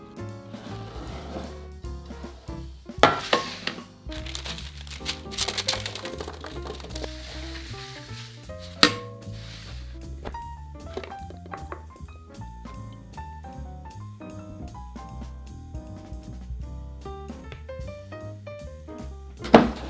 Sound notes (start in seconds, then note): 3.0 paper rustling; 3.0 pan sliding